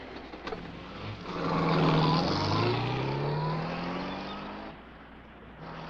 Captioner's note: car engine roaring